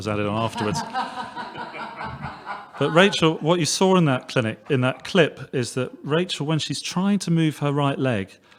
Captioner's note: background laughter